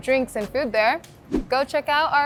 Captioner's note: wind whipping